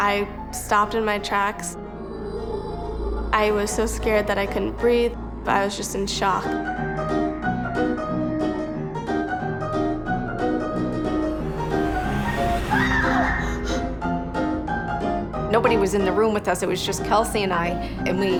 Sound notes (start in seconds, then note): 11.6 screams